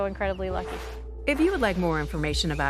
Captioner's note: swooshing